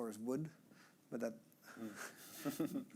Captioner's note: chuckling